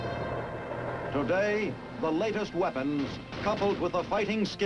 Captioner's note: male Voice